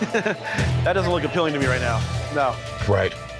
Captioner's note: chuckles